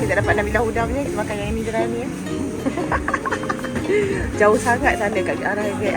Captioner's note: laugh